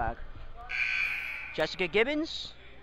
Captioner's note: buzzer rings